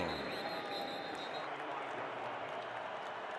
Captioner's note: whistle